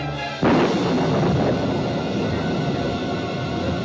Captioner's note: thunderclap